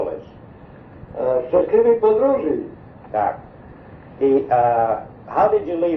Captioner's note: speaks polish